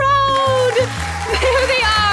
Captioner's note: crowd cheering